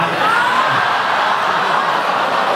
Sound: laughs

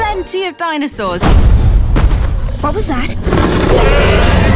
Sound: loud banging; dinosaur roars

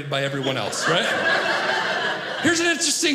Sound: audience laughing

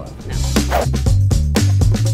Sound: air whooshing; upbeat music

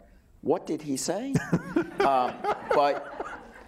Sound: laughing

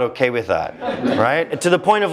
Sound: laugh

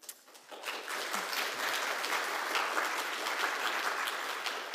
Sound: audience applauding

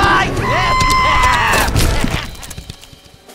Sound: Beedle screams, Link laughs, drunk

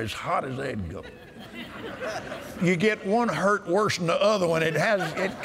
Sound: laughter

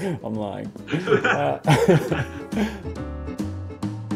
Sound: laughs

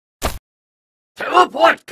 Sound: steps on ground

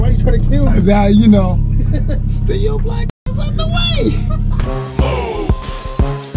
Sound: beep

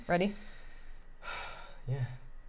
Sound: sighing

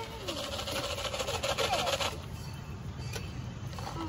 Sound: shaking a cup full of corn

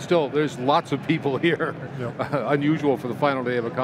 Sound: laughs

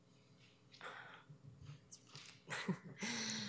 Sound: chuckles

